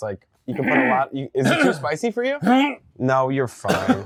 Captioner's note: grunts